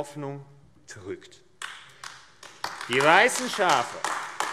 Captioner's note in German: Beifall AfD